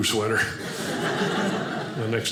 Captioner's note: audience laughing